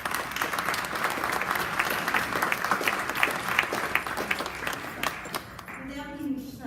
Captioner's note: applause